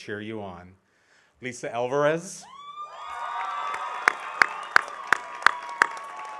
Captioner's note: audience cheering